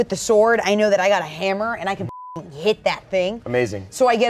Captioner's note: beep